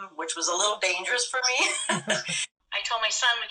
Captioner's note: laughter